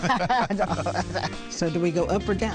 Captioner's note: couple laugh